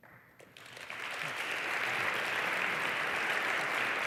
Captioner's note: applause